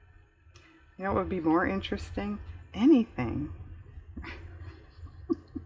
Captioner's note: laughs